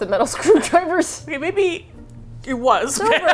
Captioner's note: laughs; laughs